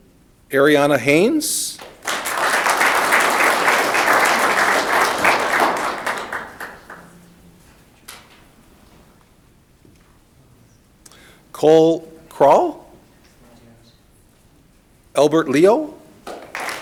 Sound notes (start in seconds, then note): 1.7 audience clapping